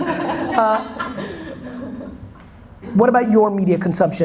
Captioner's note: audience laughter